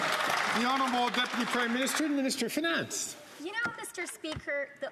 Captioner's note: some Applause